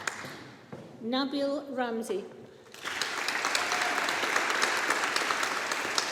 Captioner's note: audience applauding